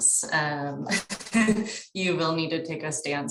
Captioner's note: chuckles